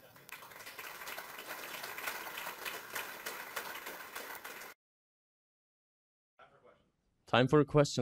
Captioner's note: applause